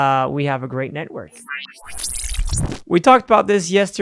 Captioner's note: electronic beeping